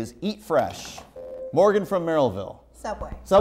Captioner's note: buzzer